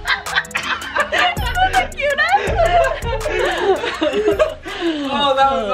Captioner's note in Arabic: الجميع يضحكون; يضحك